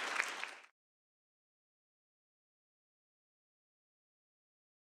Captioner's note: applause